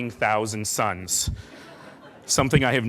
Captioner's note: laughing